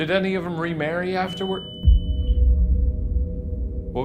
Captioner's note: boo-subi beeps